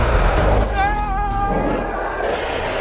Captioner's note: loud screeching roars; screams; loud screeching roars